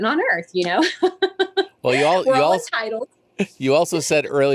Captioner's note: laughs